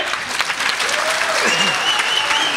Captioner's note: crowd cheers